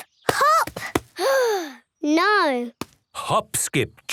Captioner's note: sigh